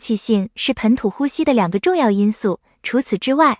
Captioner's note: breathe